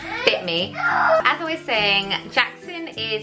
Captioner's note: baby crying